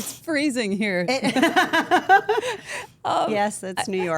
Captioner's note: group laughs